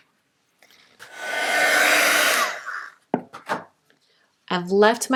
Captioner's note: heat tool whirs